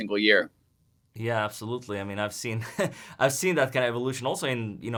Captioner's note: laughing